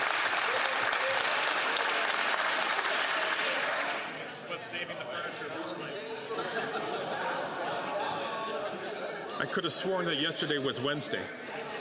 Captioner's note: some Applause